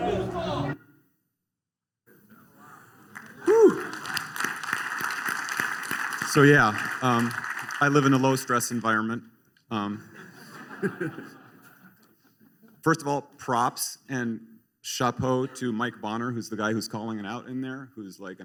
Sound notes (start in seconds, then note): 3.0 applause; 9.9 laughter